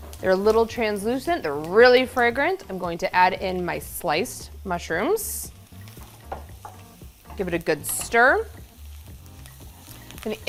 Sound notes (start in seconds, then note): 5.8 ingredients sizzling; 8.7 ingredients sizzling